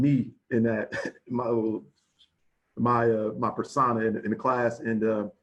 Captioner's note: chuckles